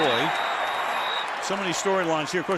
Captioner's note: whistles